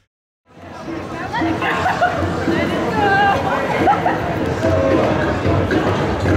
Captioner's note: ambient parade and city sounds